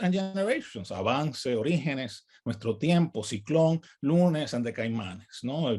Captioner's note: speaks in native language